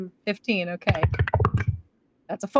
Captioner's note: dice clink